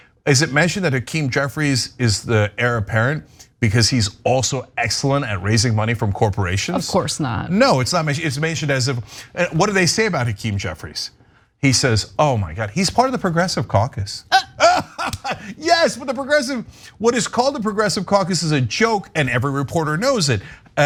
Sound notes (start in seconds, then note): 14.2 laugh